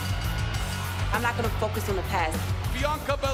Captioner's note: bell ringing